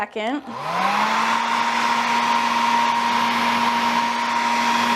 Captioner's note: hairdryer whirring